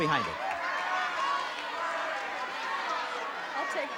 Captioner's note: shouting